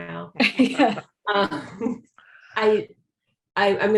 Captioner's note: laughs